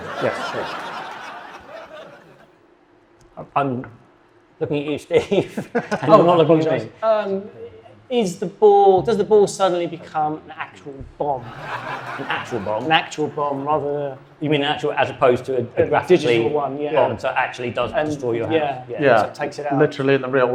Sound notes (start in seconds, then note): 0.0 audience laughing; 4.8 guest laughing; 5.1 chuckles; 11.4 audience laughing